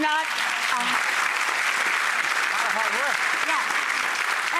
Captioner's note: audience applauding